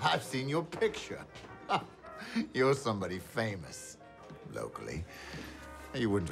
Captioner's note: chuckles